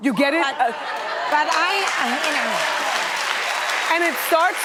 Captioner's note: audience applauding and cheering